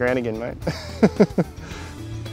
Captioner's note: laughing